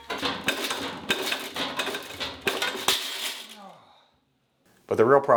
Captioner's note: tool rattling